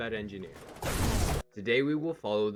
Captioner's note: building falls to pieces loudly